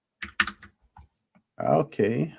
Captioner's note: typing